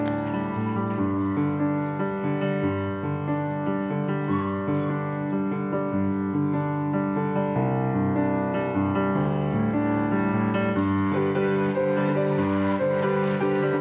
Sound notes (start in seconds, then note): 10.7 applause